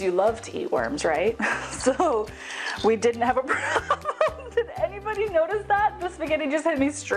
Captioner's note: laughing